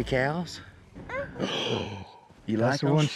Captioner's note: gasp